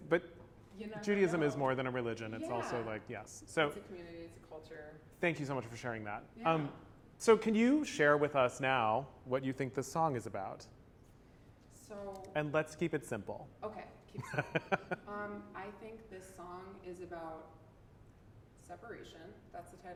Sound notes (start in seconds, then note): 14.2 laughs